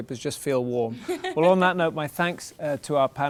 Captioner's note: laughter